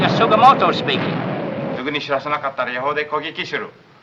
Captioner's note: speaking in japanese